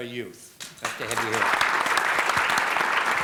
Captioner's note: applause